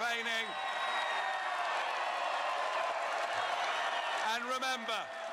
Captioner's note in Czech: Potlesk